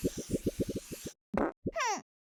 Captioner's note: fart